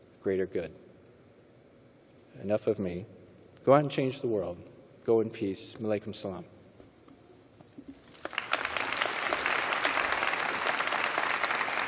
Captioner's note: applause